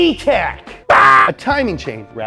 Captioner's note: yelling